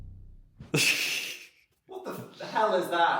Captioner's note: dramatic rumbling music; Phil laughs